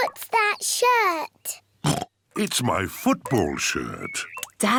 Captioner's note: oinks